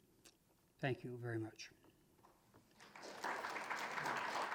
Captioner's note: applause